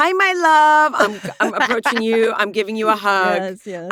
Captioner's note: laughs